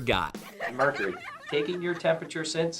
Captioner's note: laughter